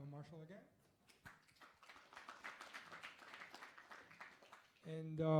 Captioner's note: applause